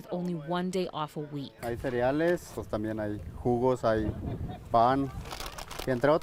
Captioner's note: speaking in foreign language